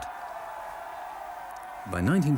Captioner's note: spectators continue cheering